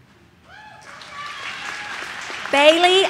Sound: audience cheers

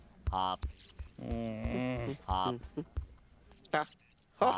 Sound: Lionel grumbles

